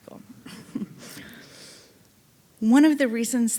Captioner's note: audience laughing